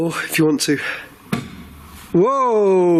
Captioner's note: thump